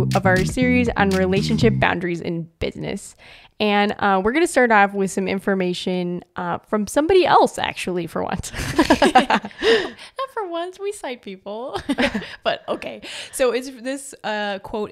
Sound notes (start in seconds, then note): 8.5 both laugh